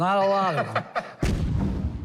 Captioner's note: laughs